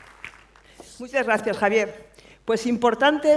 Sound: speaking spanish

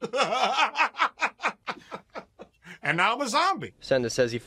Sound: laughing

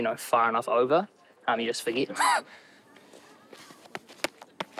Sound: chuckles

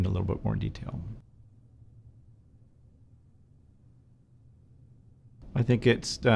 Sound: silence

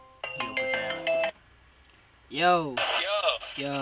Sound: phone ringing

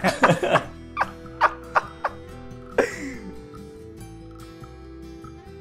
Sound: laughter

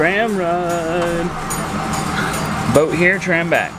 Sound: motor running

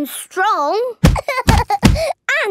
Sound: banging

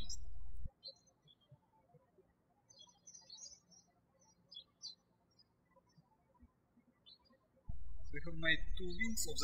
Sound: birds chirping

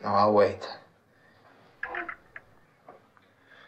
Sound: phone turning off

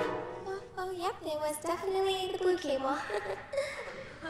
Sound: laughs; group laughing

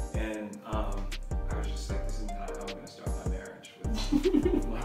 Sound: laughs

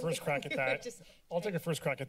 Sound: laughter

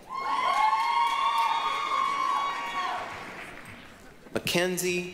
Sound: applause, cheering

